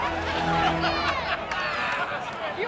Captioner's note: spectators laugh